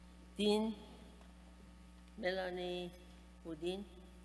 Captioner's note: speaking persian